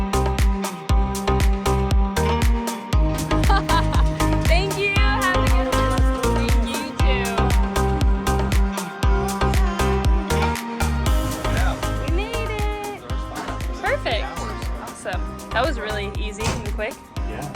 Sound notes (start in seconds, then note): 3.1 laughing